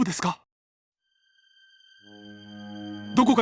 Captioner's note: shocked silence